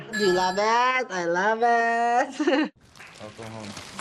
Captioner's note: chuckles; applause